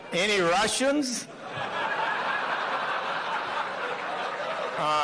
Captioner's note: laughter